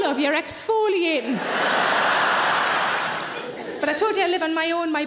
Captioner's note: audience laughing loudly